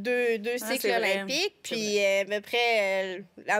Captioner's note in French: none